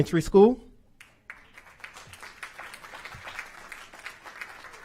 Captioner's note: applause